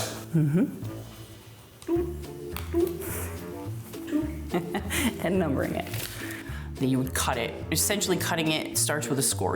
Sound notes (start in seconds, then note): 4.1 chuckles